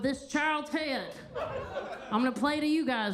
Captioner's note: attendees laughing